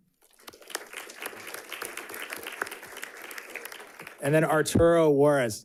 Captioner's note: audience clapping